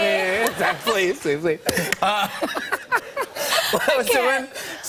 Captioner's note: laughter